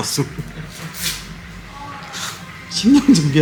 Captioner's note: laughing